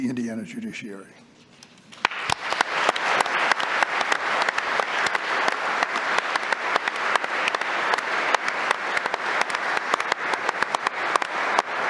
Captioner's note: applause